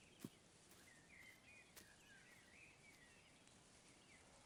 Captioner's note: birds singing